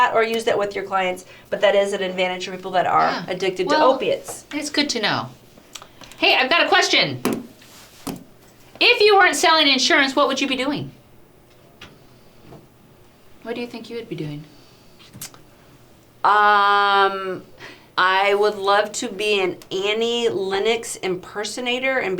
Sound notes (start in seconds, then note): 12.0 silence; 15.4 clicks tongue